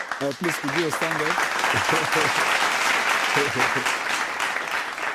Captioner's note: applause